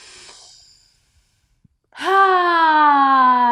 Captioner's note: sighs audibly